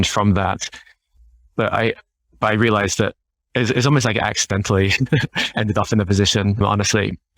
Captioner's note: laughing